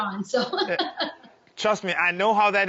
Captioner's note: Rachael laughing